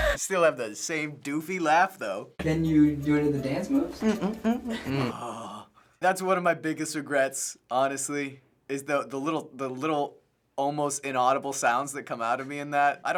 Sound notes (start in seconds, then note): 4.0 humming song